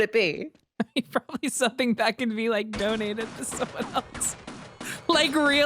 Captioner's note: laughs